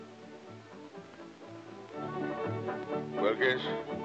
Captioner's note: insects chirping